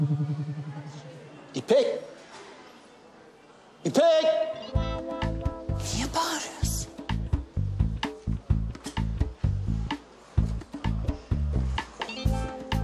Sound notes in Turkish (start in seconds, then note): 3.7 Bağırıyor